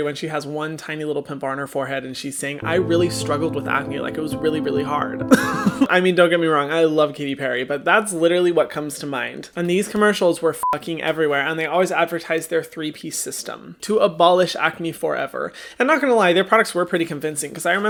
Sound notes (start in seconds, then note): 5.3 laughing; 10.6 beep